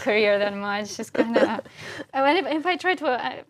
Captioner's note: laugh